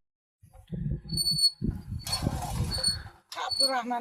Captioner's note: sounds like the whistling of the spinning wheel while pulling the hose